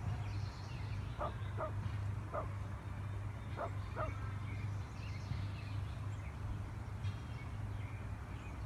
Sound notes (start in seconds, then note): 1.2 dog barking